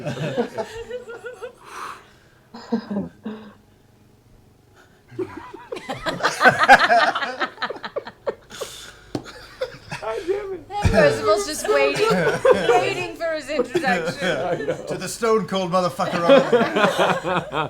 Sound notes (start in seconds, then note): 0.6 laughter